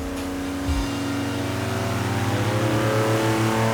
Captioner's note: loud engine